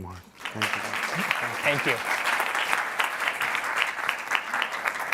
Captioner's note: applause